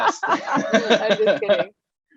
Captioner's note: laughing